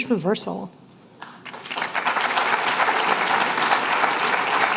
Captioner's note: applause